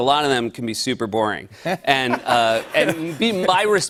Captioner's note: light laughter